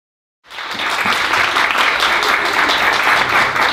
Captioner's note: applause